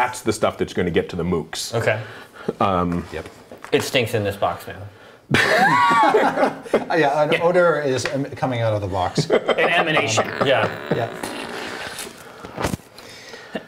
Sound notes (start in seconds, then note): 4.9 laughing